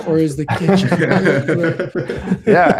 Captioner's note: laughter